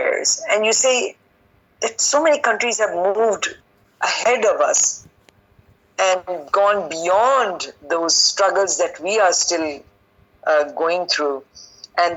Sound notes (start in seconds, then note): none